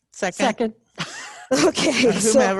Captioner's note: laughing